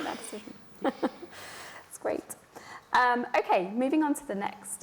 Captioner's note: laughter